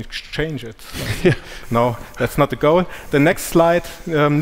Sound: chuckles

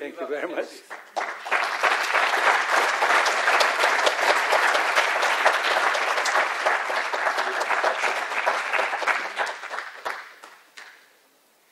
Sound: audience applauses

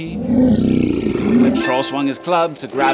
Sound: growls

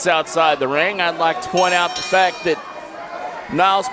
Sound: bell ringing

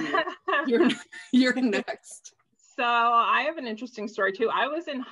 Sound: chuckles

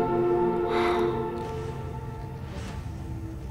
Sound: exhale

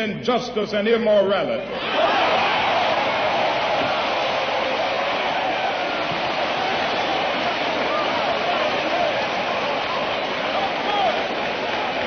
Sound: applause

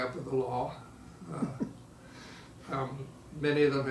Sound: laughing

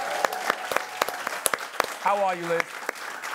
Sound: applause

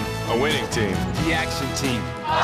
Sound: cheering

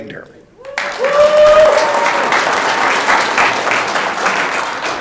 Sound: audience clapping

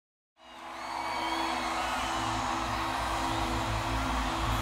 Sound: audience cheering

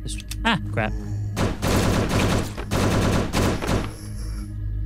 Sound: gunshots

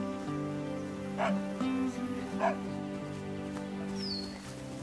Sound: dog barking

